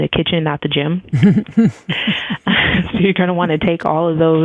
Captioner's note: both laugh